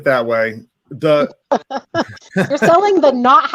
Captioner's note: laughs